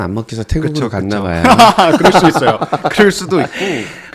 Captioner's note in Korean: 웃음